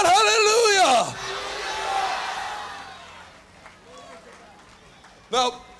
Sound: crowd shouting hallelujah

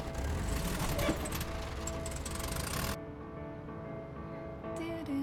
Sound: starts car

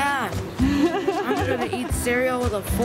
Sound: laughing

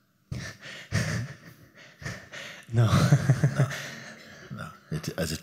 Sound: laughter

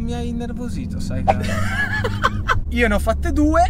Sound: laughters

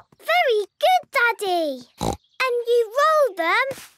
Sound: snorts

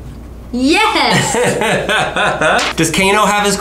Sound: laughs

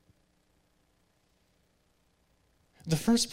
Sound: speaking in a computer generated voice

